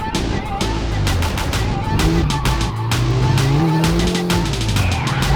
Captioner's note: yells